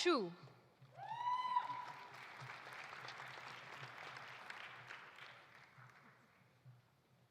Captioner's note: audience cheering; audience applauding